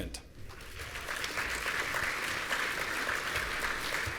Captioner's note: audience applauding